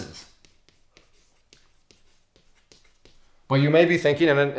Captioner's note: chalk scraping on chalkboard